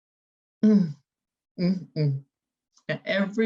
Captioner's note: humming negatively